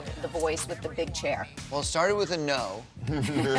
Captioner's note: laughter